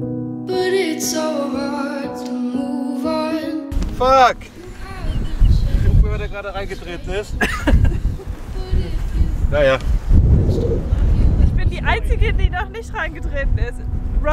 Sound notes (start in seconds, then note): 4.7 is laughing